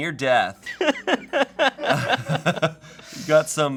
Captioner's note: laughing